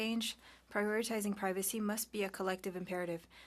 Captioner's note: speaking French